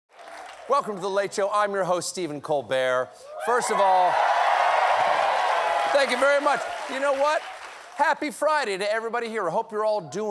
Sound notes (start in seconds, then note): 3.3 cheers and applause